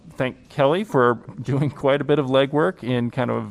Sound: laughter

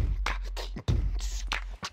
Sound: beat box

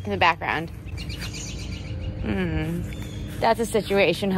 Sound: birds chirping

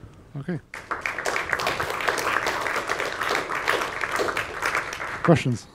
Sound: applause

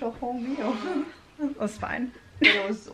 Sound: laughing

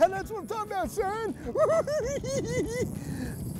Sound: giggling

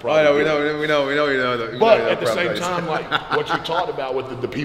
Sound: laugh

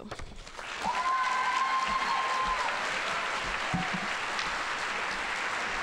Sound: audience cheering and applauding

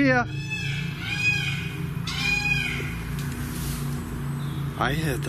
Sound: peacocks squawking

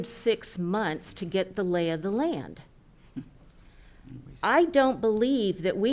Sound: chuckles

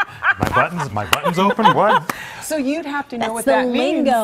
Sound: laughter

